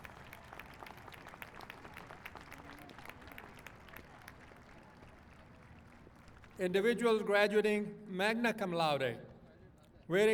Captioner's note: applause